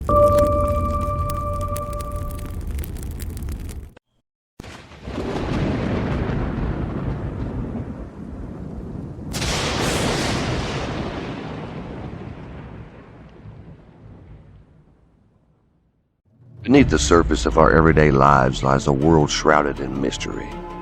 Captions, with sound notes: [Burning sound] [Thunder sound] - Beneath the surface of our everyday lives lies a world shrouded in mystery.